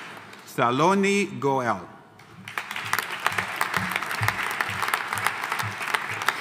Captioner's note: audience applauding